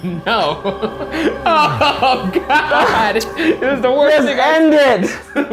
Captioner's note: laughs